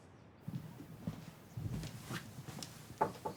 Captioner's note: footsteps thudding; Megan knocking